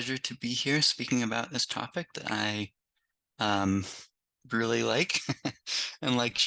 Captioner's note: laughs